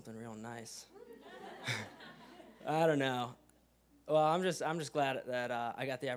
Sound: laugh

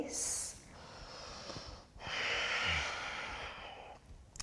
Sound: deep breathing

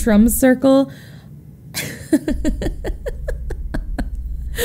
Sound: laughs

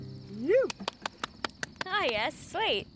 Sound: placid guitar music; cheering; clapping

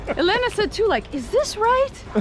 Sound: laughing

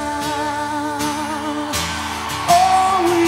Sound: crowd cheers

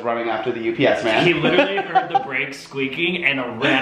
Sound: laughs

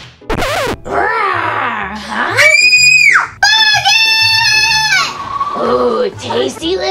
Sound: growls; screams

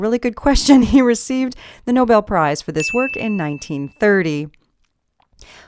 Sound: ding

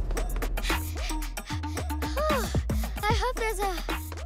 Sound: panting

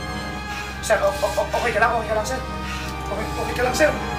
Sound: stutters

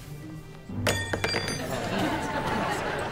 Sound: tinging

